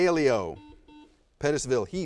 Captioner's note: buzzer buzzes